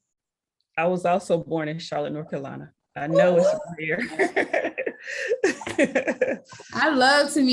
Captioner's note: laughs